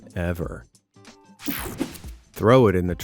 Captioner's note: scene change clicks